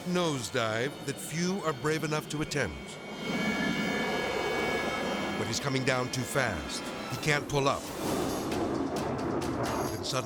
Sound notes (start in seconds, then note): 3.2 jet roaring; 7.9 jet roaring